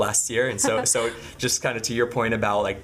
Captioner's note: laughing